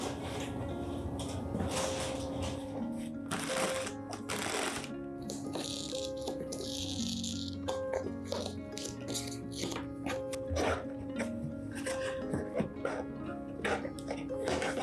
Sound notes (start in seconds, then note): 7.2 scratch, scratch